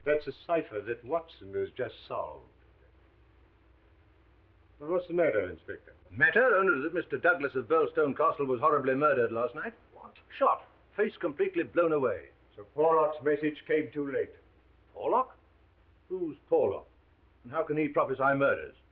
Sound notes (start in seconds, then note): none